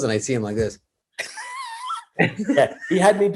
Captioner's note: Kevin wheezes